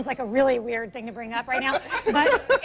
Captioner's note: laughs